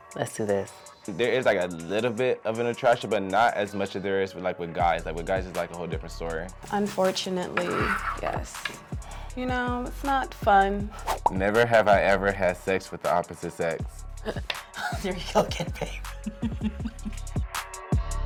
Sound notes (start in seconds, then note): 14.2 laughing